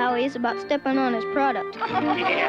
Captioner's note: laughing